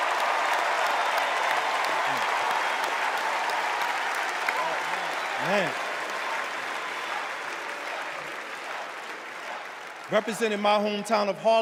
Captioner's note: cheers and applause